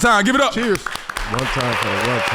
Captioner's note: everyone applauds